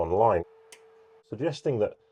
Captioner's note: UPS humming; UPS clicking